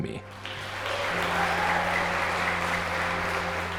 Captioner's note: audience applauding